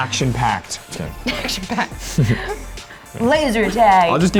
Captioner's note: laughs